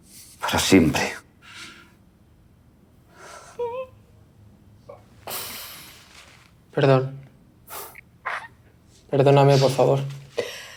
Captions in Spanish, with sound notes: Para siempre. [MADRE lloro] Perdón. Perdóname, por favor.